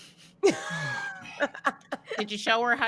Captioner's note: laughs